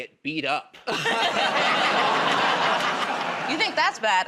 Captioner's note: laughter